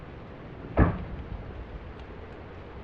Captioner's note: car door slams